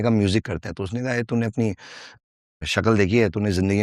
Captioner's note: non-english speech